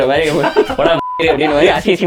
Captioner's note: group laughs